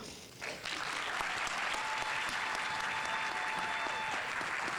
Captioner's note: audience applauding